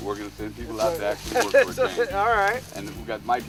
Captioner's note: laughter